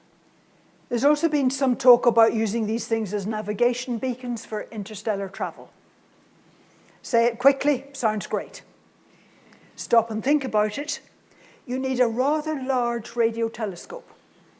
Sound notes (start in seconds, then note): none